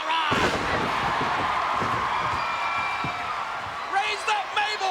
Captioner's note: crowd cheering